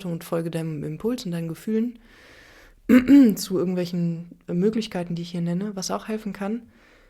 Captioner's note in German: räuspern